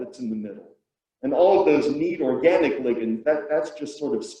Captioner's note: murmurs